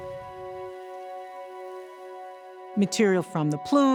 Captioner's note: crackle of particles flying through the air